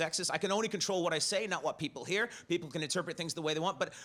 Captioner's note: none